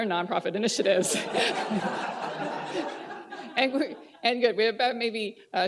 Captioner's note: laughter